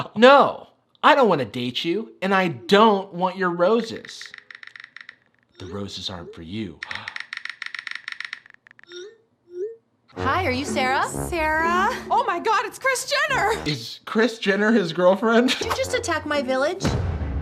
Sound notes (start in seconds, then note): 3.9 typing sound; 6.9 gasp